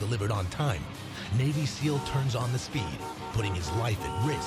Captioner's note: car horn honking